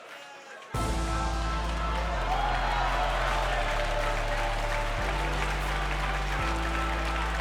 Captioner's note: crowd cheering; uplifting music